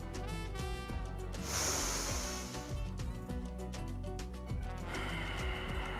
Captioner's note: breathes deeply